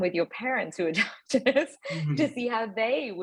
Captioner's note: chuckling